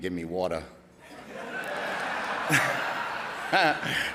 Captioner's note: audience laughing; laughing